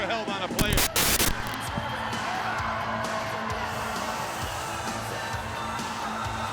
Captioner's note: graphic crackling; static crackling